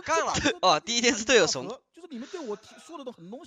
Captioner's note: laughing